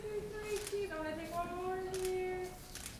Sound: camera clicks

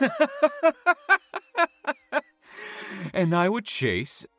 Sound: laughs

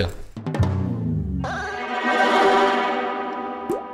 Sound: whispering?

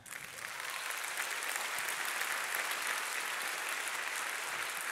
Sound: audience applauding

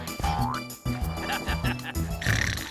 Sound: distant laughter; snoring

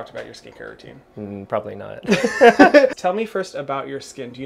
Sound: laughter

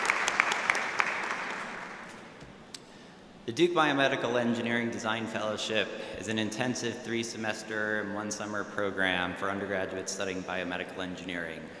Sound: applause

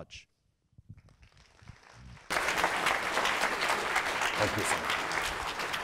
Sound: audience applauding

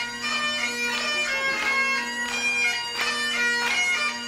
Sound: audience clapping to the beat of bagpipe music

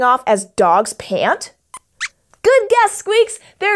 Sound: squeaks squeaks

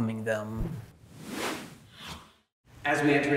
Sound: words swooshing

